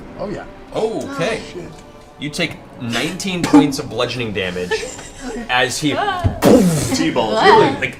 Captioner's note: impact sound